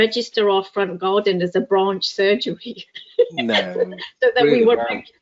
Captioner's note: laughs